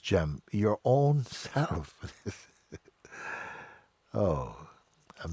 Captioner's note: laughs